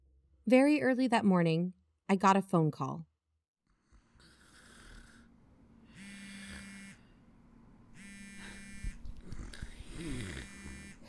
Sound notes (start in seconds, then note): 3.1 Robin is snoring; 5.9 buzz buzz phone vibrates